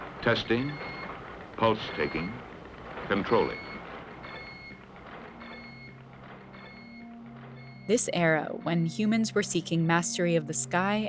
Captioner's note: soundbite of computer beeping